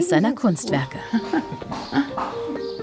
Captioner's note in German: Sanftes Lachen